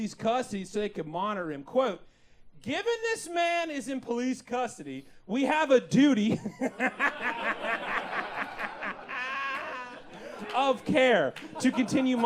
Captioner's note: hehehehe